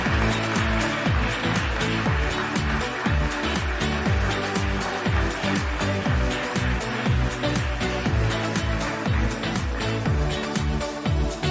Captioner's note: applause